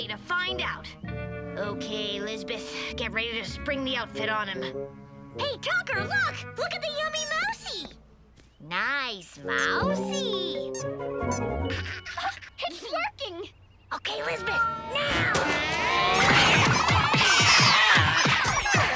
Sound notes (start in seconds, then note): 11.6 Tucker laughs; 12.1 gasps; 14.2 cats meow; 18.7 cats screech; 18.7 mouse squeaks